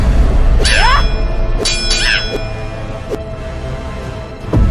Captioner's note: Xu Xang grunting